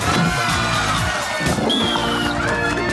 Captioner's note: whistle blows; crowd laughing